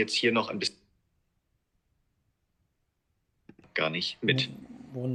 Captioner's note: silence